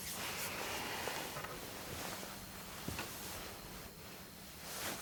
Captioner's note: insects chirping